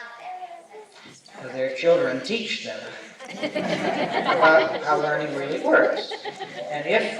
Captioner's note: laughter